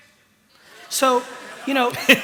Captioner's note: laughter